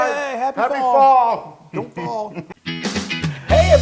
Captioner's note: laugh